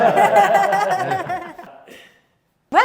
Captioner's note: confused laughter